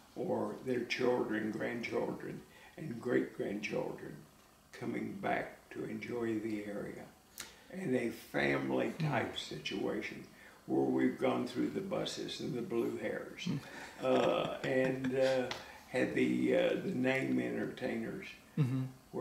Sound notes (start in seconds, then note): 13.5 laughs